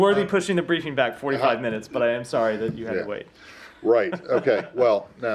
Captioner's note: laughter